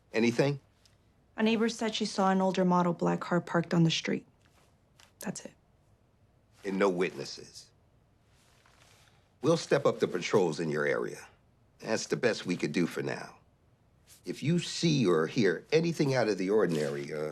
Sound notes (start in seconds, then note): none